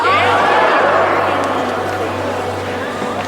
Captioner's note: people shout